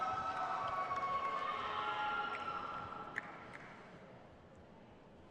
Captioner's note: crowd cheers